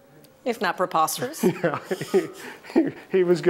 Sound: laughing

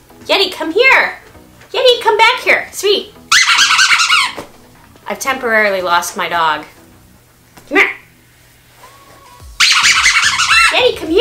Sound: squeaky toy

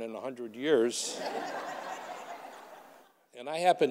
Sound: audience laughing

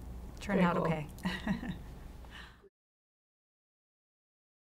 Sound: laughs

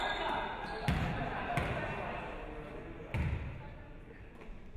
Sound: basketball dribbling

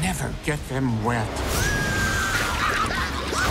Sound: screaming

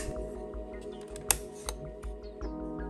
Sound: click

